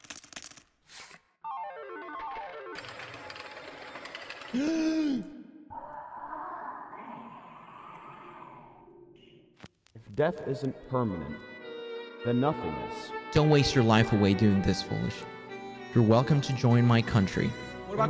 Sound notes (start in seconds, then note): 4.6 gasp